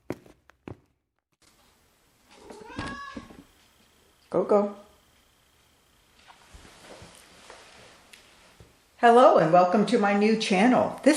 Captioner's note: cat meow